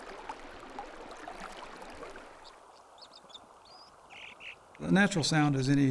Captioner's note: gurgling stream; gushing water and singing dipper